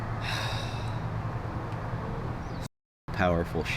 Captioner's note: sighing